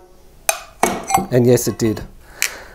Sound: tapping

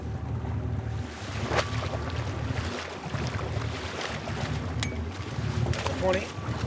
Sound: fish splashing

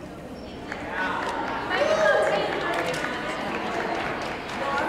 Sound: audience applauds

